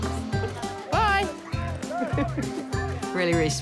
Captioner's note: chuckles